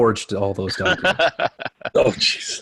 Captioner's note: laughing